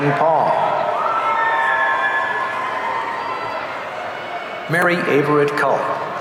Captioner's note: audience cheering